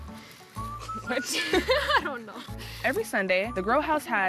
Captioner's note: laughs